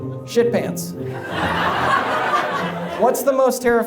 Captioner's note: audience laughs